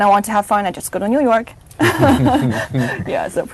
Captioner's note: chuckles